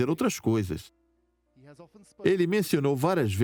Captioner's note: voiceover